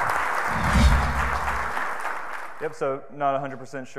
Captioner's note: audience applauds